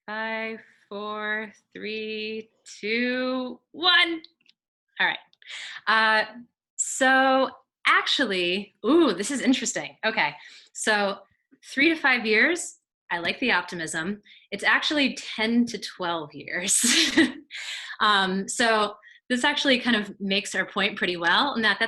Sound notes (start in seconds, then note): 16.6 chuckles